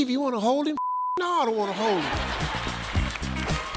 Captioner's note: beep; audience laughs; upbeat music